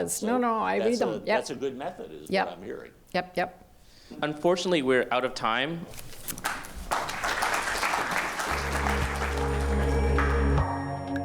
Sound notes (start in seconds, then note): 6.4 audience applause; 8.4 slow music